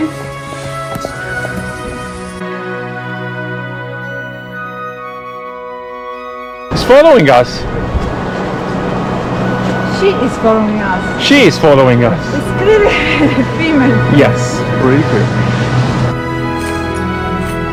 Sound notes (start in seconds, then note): 0.0 calm classical music; 12.4 laughing; 15.5 calm classical music